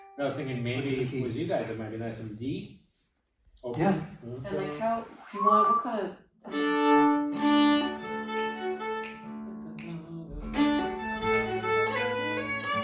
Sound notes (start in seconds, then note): 5.3 instrument playing; 6.4 snapping